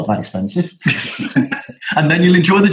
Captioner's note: laughter